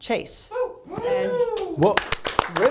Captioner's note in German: applaus